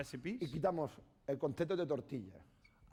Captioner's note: speaking spanish